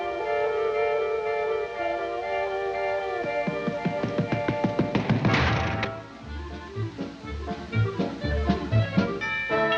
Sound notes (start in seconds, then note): 3.1 footsteps falling; 5.6 feverish music